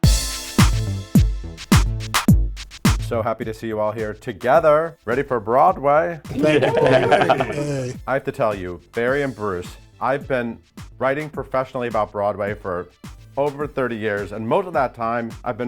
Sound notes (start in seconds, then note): 0.2 dynamic music; 6.3 all laughing